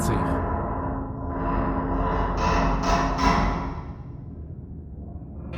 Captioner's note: scary metal noises